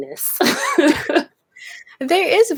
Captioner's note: both laugh